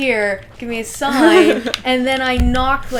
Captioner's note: laughter